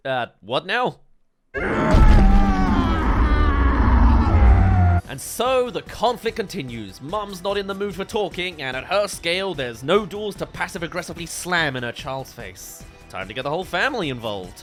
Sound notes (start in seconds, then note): 1.6 roar